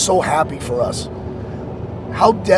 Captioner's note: wind blowing